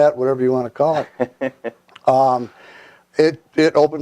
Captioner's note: laughs